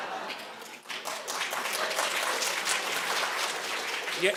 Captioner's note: audience laughing; audience applauding